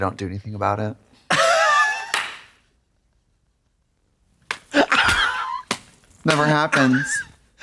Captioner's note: Katya har-hars and hits